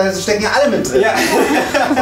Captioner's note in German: Jubelrufe